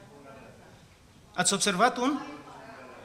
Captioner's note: audience answers